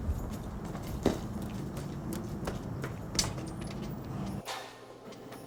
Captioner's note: footsteps tapping